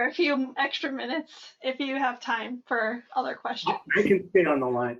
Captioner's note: laugh